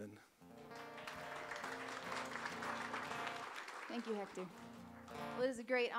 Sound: audience applauds

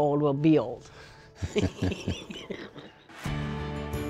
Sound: laughter

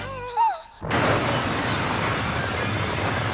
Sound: big Explosion

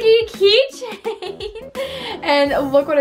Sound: laughs

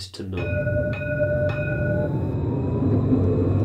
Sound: really loud train noise

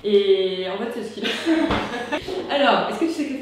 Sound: laught

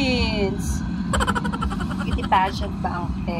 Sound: laughs

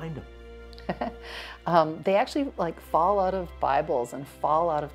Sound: chuckles

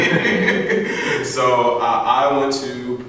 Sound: laughing

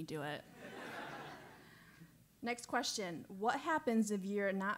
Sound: laugh

